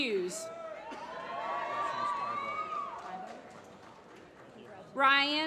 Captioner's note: applause